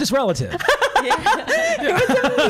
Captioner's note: all laughing